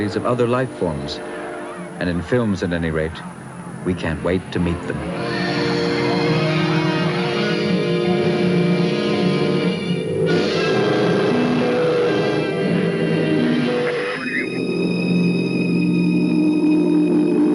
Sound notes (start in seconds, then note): 7.3 dramatic theme music; 10.5 object hovering; 14.3 background radio chattering